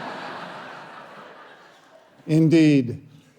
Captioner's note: audience laughing